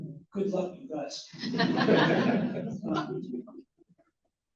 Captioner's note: laughter